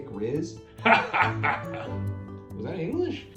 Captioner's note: laughs